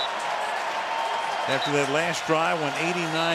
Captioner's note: whistle